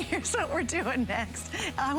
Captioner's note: laughter